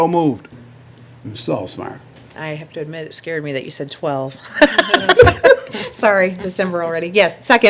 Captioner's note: laughter